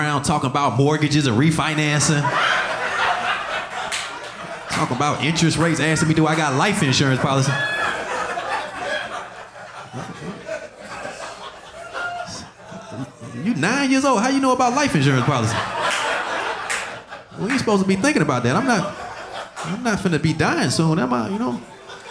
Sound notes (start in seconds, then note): 2.4 audience laughing; 16.0 audience laughing